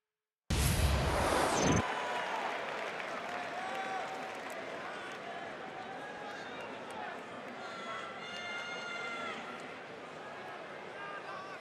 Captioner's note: crowd cheering